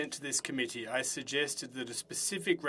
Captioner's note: speaking French